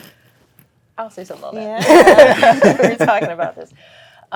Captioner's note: all laughing